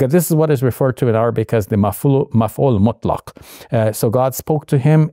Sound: Shabir speaking Arabic

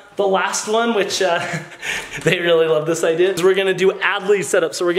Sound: laughing

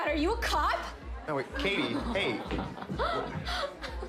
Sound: maniacal laughing

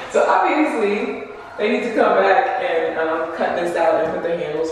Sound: none

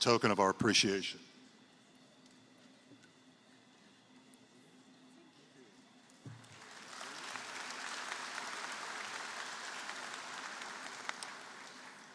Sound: applause

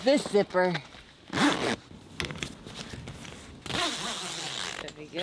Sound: zip crackling; conversing quietly

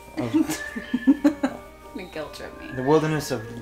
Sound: laughs

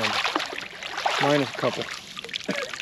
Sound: reel cranking

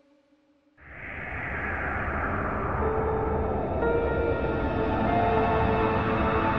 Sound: the wind is howling

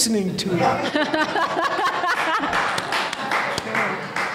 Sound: audience laughs

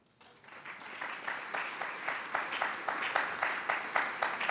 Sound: audience applauds

